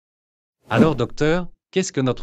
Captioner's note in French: FX - Whoosh - 03